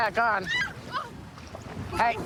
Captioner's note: screaming